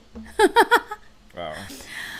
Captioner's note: laughs